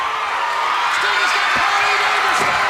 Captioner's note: crowd cheers